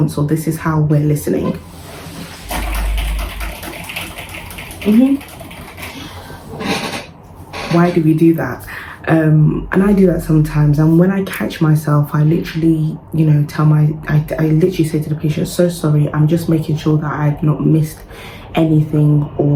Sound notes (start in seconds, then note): 2.3 person typing